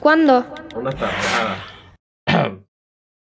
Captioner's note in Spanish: carraspea